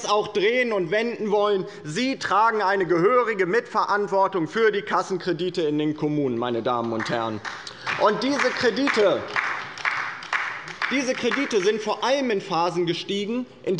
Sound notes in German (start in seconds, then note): 6.8 Beifall bei der LINKEN